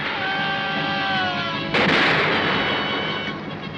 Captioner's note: gunfire